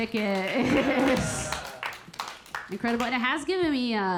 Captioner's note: audience applauding; Keira chuckling